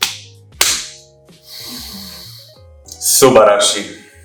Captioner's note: sighing of joy